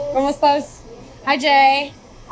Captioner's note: speaks in foreign language